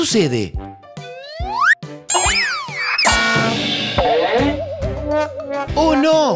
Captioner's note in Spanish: Sonido de golpes